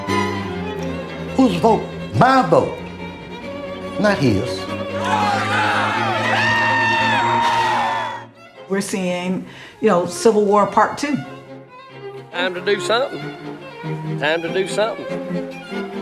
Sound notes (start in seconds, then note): 4.9 people cheering